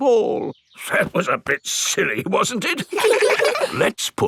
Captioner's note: in teddy's voice; in normal voice; kids laugh